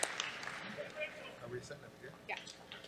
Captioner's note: chatter